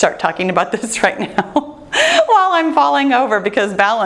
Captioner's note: laughing